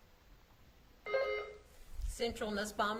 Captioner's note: buzzer beeps